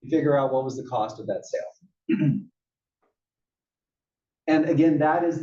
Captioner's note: cough